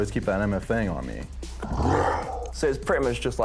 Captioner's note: roars